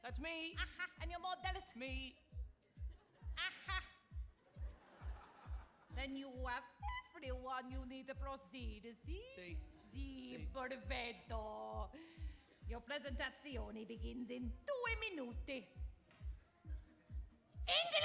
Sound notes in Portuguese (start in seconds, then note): 4.4 audience laughing; 10.5 speaking Italian; 15.8 speaking Italian